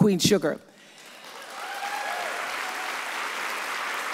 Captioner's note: audience applauds